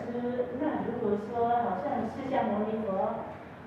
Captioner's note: audience Chinese